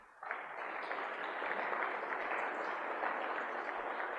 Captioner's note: applause